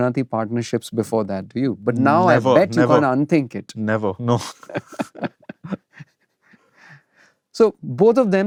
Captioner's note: laughter